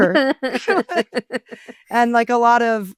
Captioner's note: all laughing